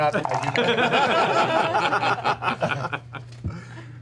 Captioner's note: laughter